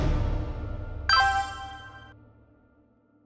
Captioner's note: phone beeps